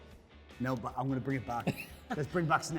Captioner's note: laughing